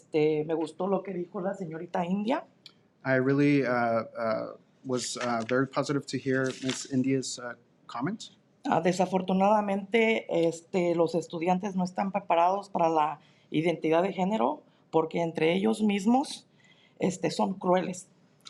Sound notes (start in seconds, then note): 0.2 speaking in Spanish; 9.2 speaking in Spanish